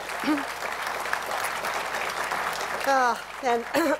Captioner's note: applause